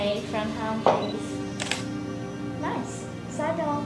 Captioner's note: shutter clicking